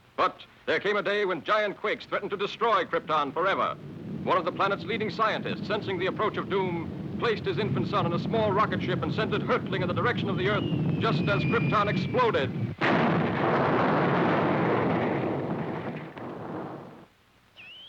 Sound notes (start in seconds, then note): 12.9 explosion booms